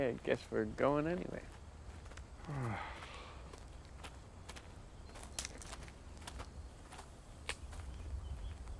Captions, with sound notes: - Okay, I guess we're going anyway. (Hitch moaning) (footsteps crunching)